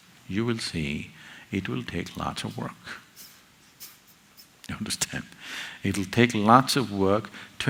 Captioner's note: laughs